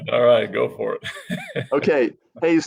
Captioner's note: laughs loudly